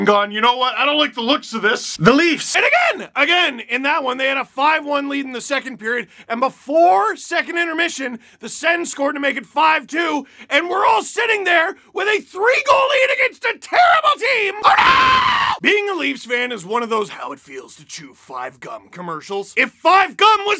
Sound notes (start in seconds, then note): 14.6 screams